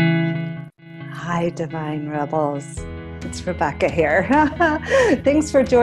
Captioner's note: laughs